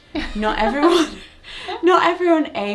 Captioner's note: both laughing